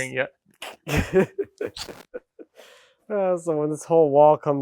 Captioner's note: speaker laughing